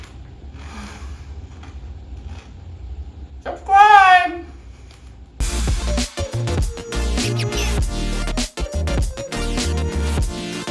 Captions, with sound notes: *sigh* *crunching* ~ subscribeee ~